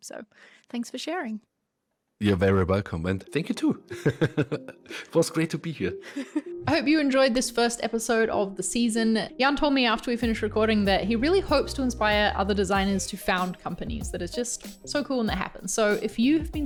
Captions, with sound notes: So thanks for sharing. - You're very welcome. And thank you, too. (laughs) It was great to be here. (low gentle music) - I hope you enjoyed this first episode of the season. Jan told me, after we finished recording, that he really hopes to inspire other designers to found companies. That is just so cool. And that happens.